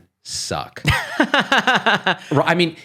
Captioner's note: laughing